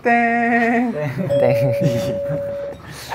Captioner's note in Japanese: ブー!!